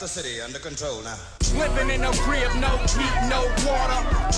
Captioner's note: indistinct shouting